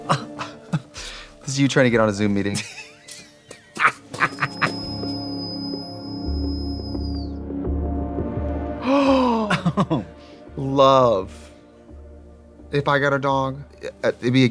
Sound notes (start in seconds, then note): 0.2 Katya laughing; 4.4 whistle blowing; 7.8 dramatic music; 8.8 Trixie gasps